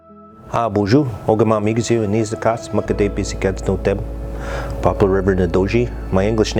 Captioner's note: ojibwe language